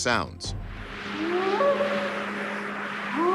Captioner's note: short howls